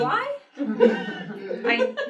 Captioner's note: laughter